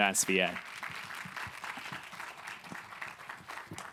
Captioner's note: applause